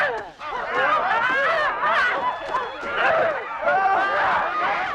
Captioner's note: Hundra grunts; chieftains shouting